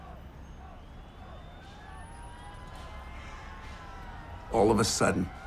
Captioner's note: crowd clamoring in background